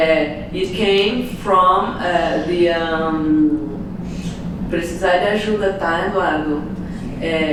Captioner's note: non-english speech